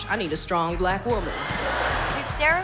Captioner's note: laughter